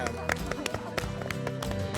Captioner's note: claps